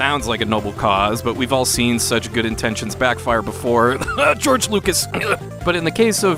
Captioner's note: cough